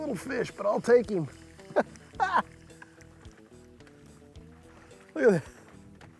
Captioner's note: laughs